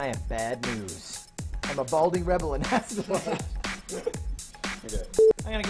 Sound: laughs

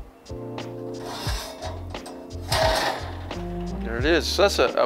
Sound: metal clangs

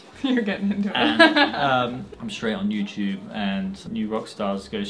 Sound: laughs

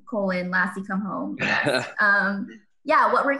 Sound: laughs

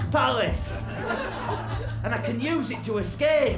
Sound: laughter

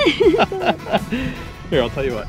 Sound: laughter

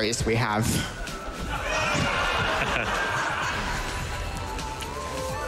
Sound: laughter

